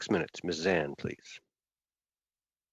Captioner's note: speaking in French